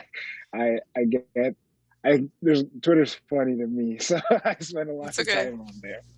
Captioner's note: laughs